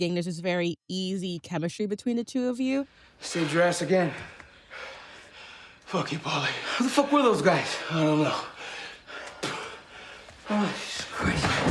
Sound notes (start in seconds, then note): 4.1 leroy and pauly panting; 9.4 spits